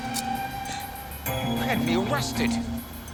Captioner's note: gasps